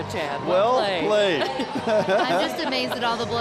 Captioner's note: laughing